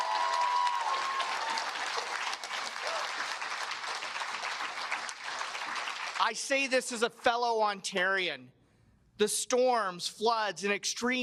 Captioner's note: cheers and applause